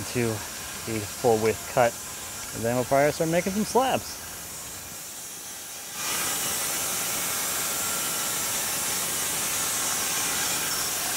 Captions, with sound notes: to the full width cut and then we'll fire to start making some slabs. (power saw rattling)